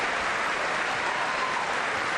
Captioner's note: applause